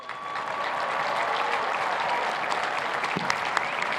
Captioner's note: cheers and applause